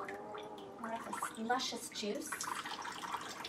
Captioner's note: dripping sound